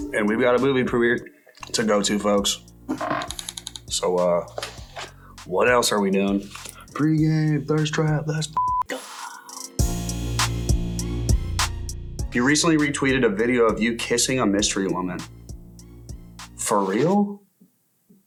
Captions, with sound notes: And we've got a movie premiere to go to folks. So, what else are we doing? Pre-game, Thirst Trap, let's (beep) go (bright upbeat music) You recently retweeted a video of you kissing a mystery woman. For real?